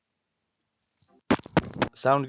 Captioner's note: aggressive spitting